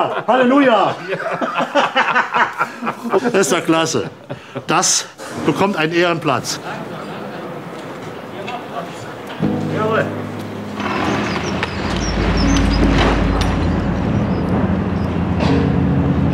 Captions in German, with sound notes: Halleluja. (Beide lachen.) Ist doch klasse, das bekommt einen Ehrenplatz. Jawohl. (Baulärm) (Ruhige Musik)